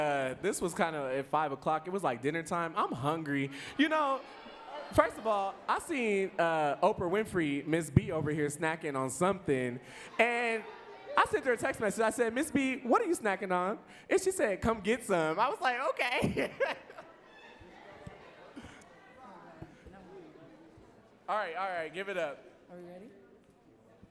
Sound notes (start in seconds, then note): 16.1 laughs